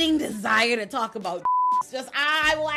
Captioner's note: beep